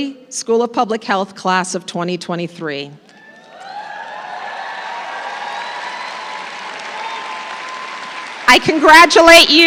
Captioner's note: applause